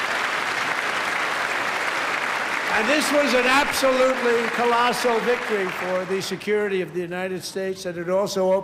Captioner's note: applause